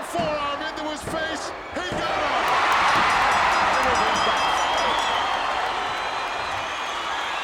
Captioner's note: bell ringing